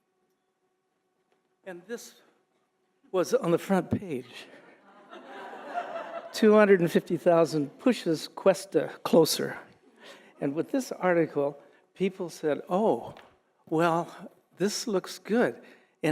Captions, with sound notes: and this was on the front page. (audience laughing) $250,000 pushes Cuesta closer. And with this article, people said, oh, well, this looks good,